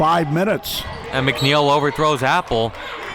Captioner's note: whistle blows